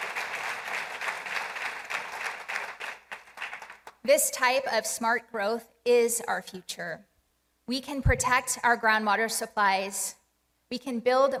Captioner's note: applause